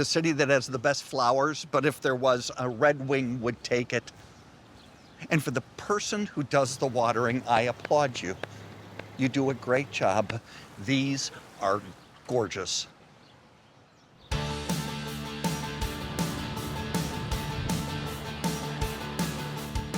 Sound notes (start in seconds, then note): 8.7 claps; 14.3 upbeat music